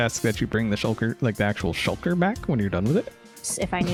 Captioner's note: laughs